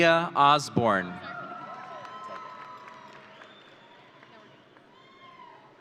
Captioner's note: audience cheering